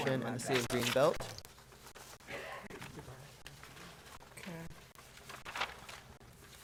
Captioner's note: board chatting quietly